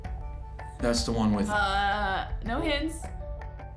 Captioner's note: mocking